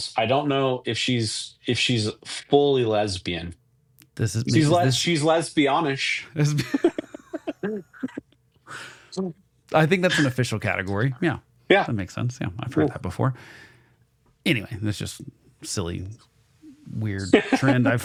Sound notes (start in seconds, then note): 6.4 both laughing